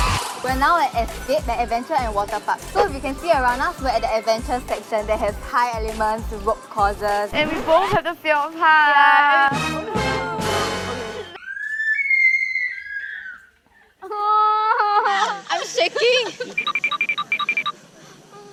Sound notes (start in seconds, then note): 11.3 scream